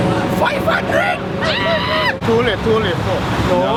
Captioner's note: screams